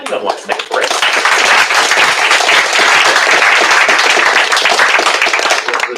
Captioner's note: applause